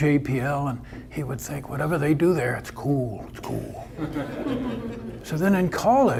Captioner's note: audience laughter